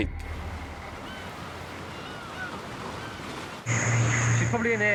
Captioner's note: birds caw